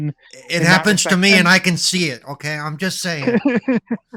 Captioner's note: laughing